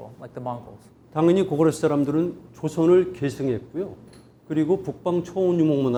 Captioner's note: speaking in Korean